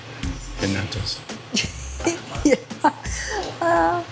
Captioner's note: laughing